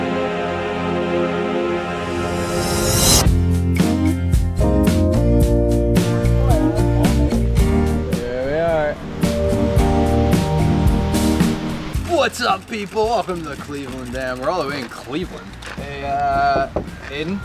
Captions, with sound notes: (air whooshing loudly) (mellow groove music) Here we are. What's up, people? Welcome to the Cleveland Dam. We're all the way in Cleveland. Hey, Aidan?